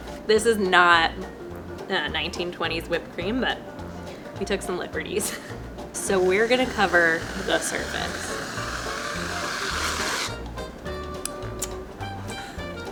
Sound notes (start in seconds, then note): 8.6 whipped cream whooshes